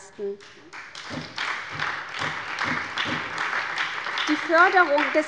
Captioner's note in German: Beifall bei der SPD